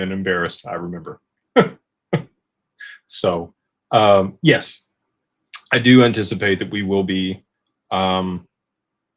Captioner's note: laughter